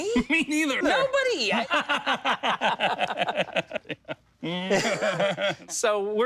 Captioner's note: both laughing